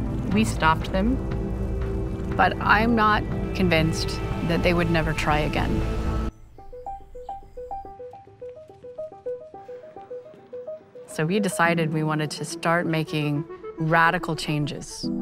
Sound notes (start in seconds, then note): 6.2 lively music; 7.9 footsteps clattering, voices murmuring